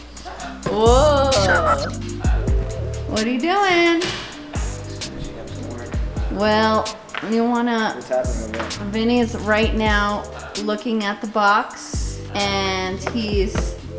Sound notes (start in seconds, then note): 1.2 bird squawking